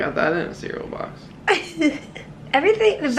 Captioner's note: laughing